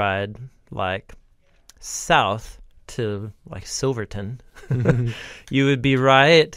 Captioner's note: chuckles